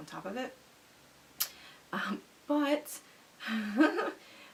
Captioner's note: chuckles